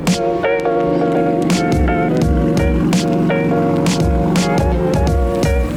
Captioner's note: engine roaring